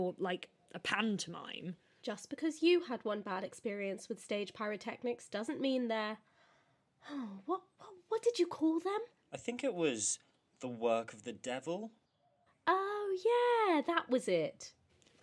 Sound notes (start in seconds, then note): 6.7 sighs